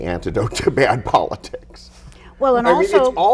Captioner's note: laughs